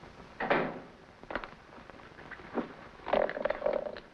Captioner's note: door thuds